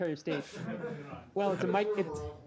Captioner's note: laughter